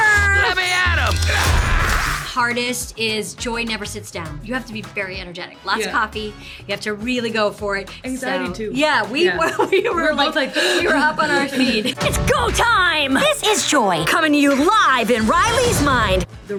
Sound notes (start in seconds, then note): 10.5 breathes heavily